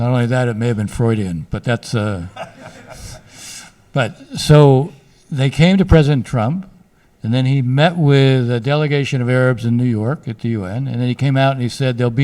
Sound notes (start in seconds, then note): 2.3 laughs